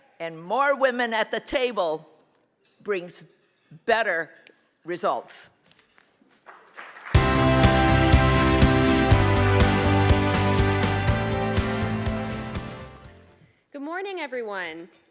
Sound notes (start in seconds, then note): 6.5 audience applauds; 7.1 bright music